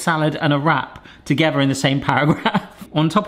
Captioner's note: laughs